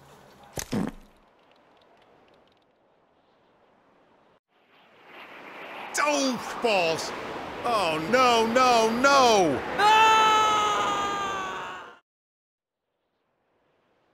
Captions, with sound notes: [Fart] D'oh balls! Oh no no no! [Screaming]